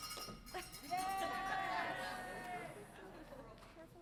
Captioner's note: audience chattering